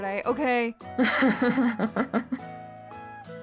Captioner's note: Robin Laughing